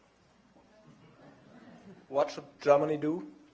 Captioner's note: laughter